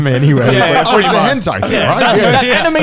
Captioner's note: laughs